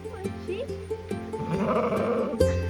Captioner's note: baaaa